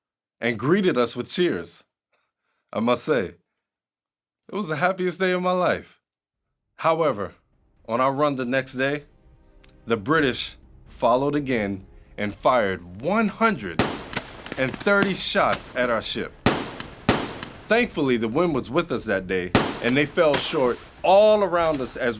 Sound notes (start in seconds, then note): 16.4 gunfire banging